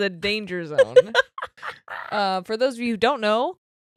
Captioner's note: laughing